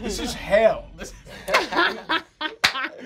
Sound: laughing

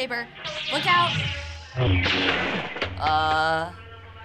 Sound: lightsaber warbling

